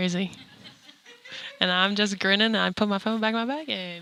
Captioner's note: scattered laughter